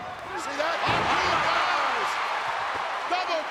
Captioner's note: audience cheering